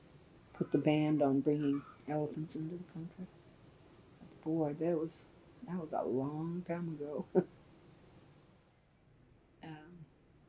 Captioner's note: laughs